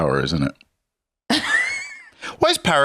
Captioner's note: laughs